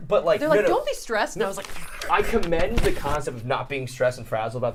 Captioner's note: growls